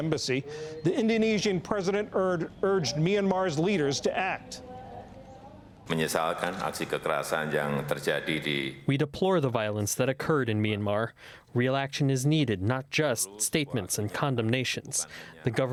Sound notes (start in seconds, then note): 7.0 through translator